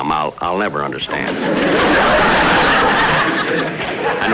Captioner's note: audience Laughing